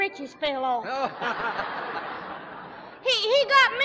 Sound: laughter

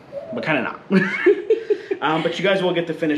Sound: laughs

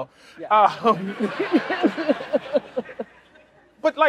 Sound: laughter

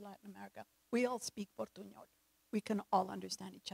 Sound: speaks in foreign language

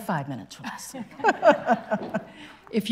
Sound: laughing

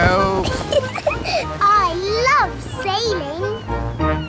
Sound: giggles

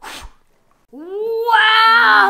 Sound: blows

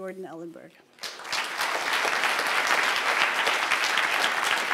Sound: applause

